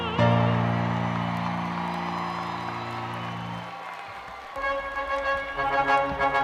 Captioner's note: attendees cheering and applauding